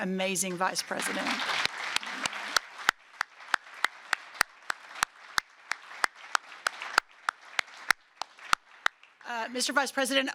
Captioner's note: applause